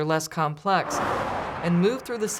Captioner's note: sound of cars driving